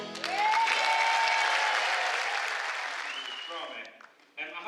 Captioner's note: cheers